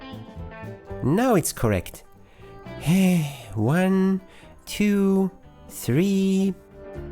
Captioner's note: sigh